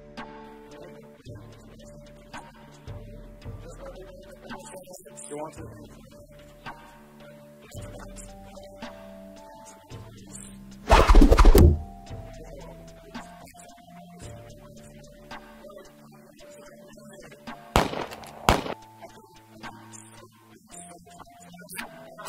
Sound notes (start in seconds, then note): 17.7 more gunshots